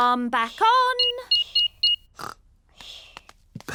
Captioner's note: beeping